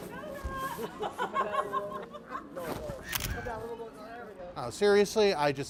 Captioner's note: shutter clicks; laughs